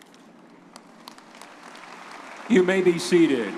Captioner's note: audience applauding